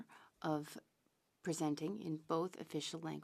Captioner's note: speaking French